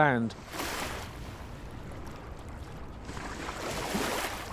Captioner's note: water crashing gently